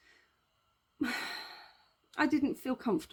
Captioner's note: sigh